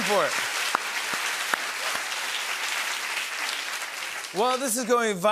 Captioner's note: applause continues